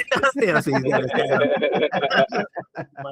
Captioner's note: laughing